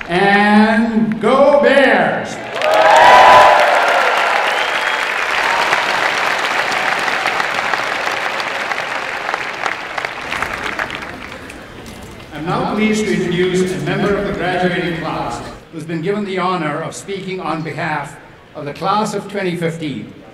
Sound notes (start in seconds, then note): 2.4 applause and cheering